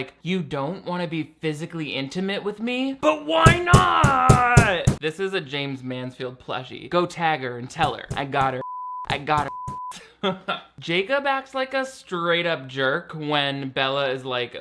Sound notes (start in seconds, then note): 8.6 beep